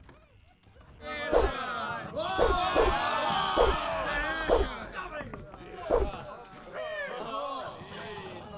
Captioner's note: crew's shouts and the clang of swords